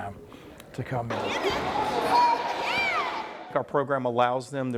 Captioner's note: people talking and swimming in the pool